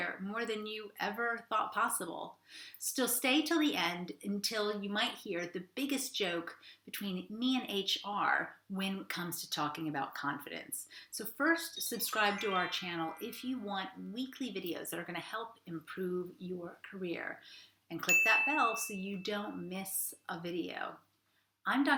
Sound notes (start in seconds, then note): 11.9 twinkling; 18.1 bell ringing